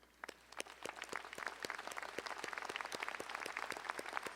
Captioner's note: audience applauding